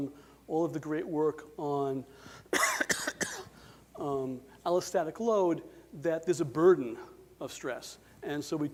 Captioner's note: coughs